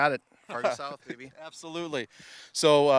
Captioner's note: laughing